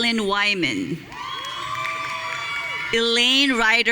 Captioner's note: audience cheering